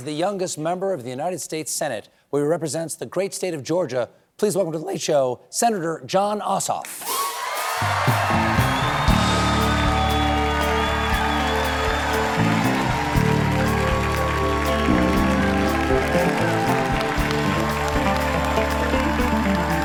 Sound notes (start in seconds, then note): 7.0 cheers and applause